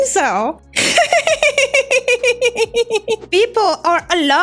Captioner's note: laughs